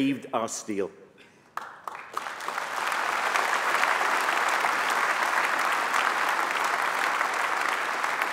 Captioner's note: applause